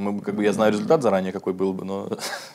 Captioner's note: laughs